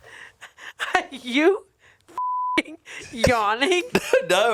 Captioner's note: beep